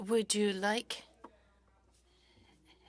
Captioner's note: speaking FRENCH